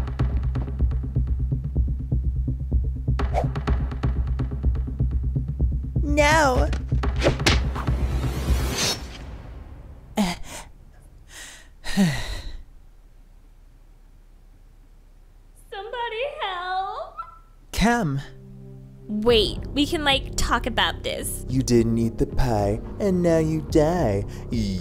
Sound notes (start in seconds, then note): 0.2 dramatic music; 7.6 crack; 7.9 musical whoosh